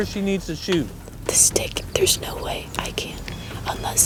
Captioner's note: whispering